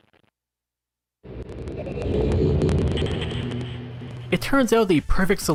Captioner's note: linking arrival sound still crackling and stuttering